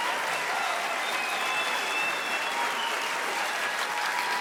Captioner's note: audience cheering